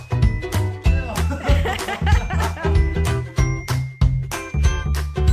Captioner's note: laughing